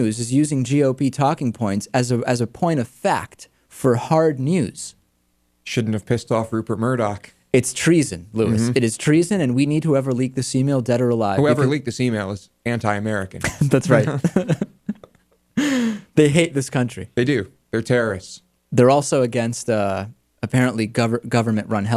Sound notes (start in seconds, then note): 13.4 laughs